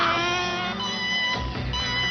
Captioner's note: alarm